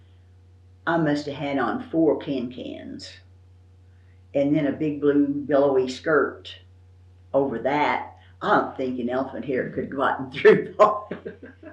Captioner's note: laughs